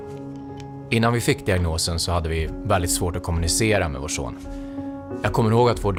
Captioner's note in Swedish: Mansröst